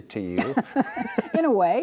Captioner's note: laughs